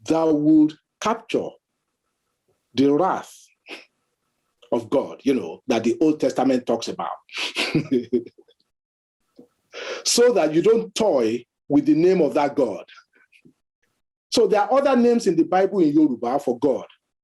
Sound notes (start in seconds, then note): 7.2 chuckles